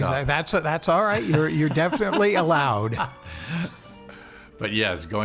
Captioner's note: laughing